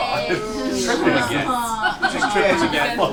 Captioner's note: all groan